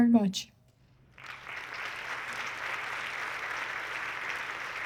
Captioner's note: audience clapping